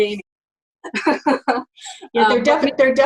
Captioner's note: laughing